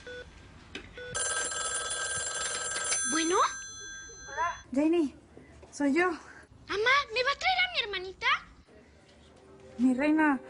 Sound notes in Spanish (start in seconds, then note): 1.1 Sigue sonando el teléfono